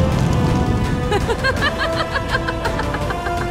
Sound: fire crackles; sinister laugh

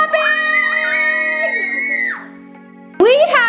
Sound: kids screaming

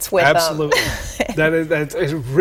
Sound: chuckle

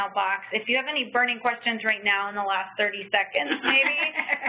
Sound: laugh

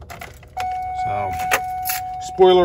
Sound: car starter beeping

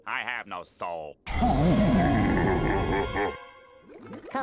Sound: evil laughter

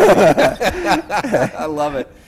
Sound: laughs

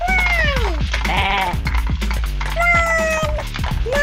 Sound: sheep baa

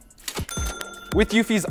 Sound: ding

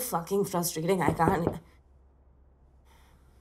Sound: knocking on door

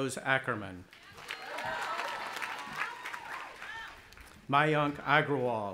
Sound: audience applauding

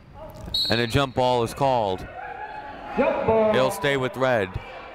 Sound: whistle blowing

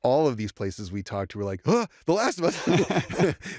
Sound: laughter; gasps

